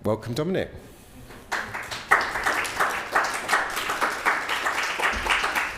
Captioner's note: audience applauding